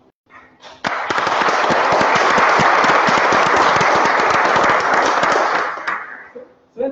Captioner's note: applause